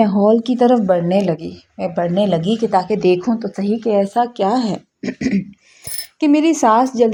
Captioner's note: clears throat